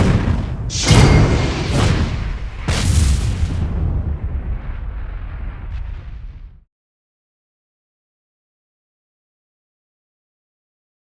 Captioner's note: whooshing sounds